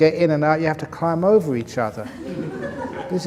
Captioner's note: laughter